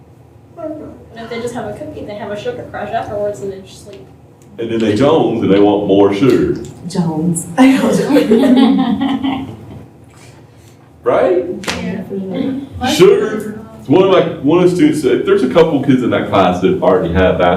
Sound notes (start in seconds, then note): 8.0 laughter